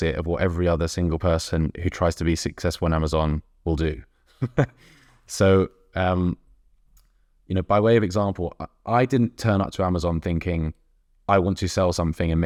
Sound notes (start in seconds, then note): 4.3 chuckles